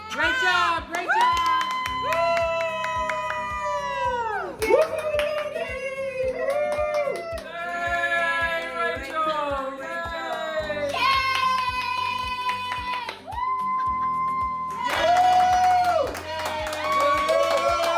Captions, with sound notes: - Great job, great job! (whooping) - Katie! - Katie! - Yay, Rachel! - Yay! - Rachel! - Yay! (whooping) (cheering)